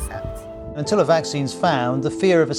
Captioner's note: rolling news audio